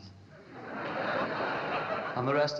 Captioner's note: laughing